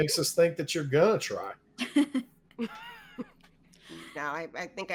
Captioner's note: all laughing